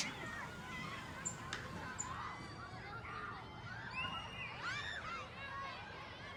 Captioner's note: kids shouting in background